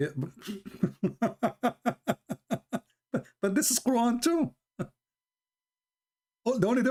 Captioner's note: Ketawa